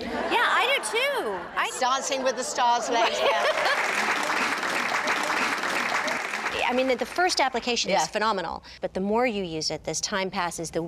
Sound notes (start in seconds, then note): 3.4 applause